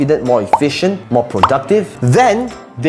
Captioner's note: bubble popping